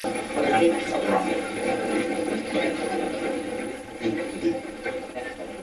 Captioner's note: static fizzing; static playback transmitting